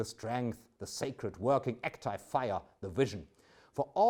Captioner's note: speaks German